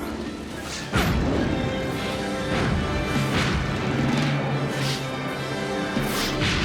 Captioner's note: dramatic orchestral music; explosions boom